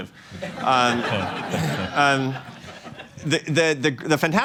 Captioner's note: laughter